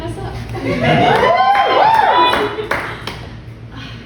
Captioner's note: cheers